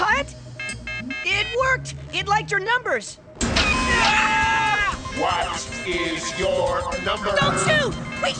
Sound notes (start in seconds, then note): 1.0 robot Noise; 1.8 boys Scream